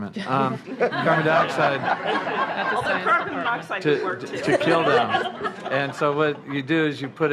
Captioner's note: laughter